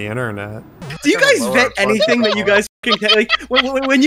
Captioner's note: laughs